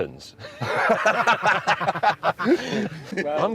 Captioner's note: they laugh